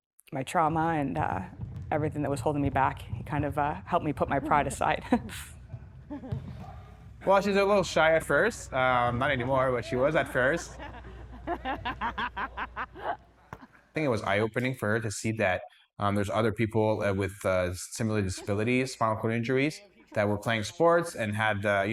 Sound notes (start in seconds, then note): 10.4 laughing